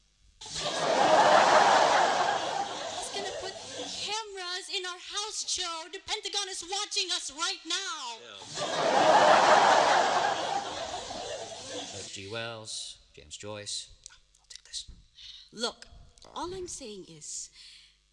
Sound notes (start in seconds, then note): 0.4 laughter; 8.4 laughter